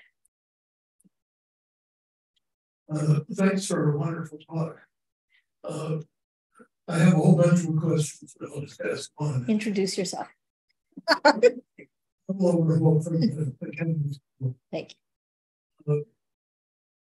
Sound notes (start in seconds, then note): 11.1 laughing; 12.6 speaking faintly